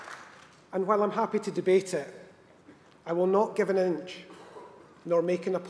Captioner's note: applause